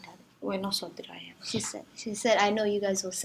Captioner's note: speaks in Somali